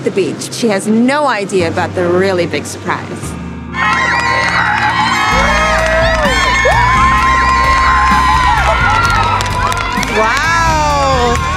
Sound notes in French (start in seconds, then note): 3.7 acclamation de la foule